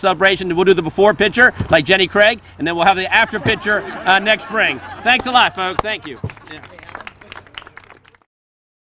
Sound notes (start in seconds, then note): 6.7 applause